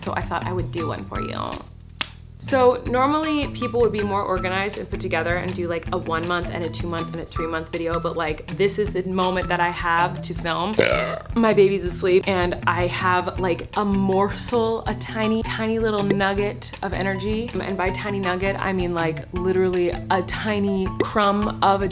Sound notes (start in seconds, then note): 2.0 clicks tongue; 10.7 belches